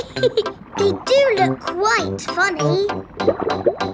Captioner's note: laughs